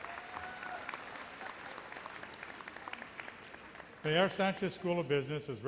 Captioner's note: audience cheers and applauds